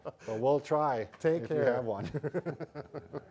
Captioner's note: laughs